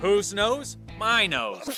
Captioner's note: sneezes